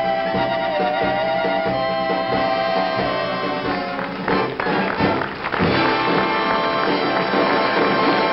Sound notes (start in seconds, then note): 5.2 applause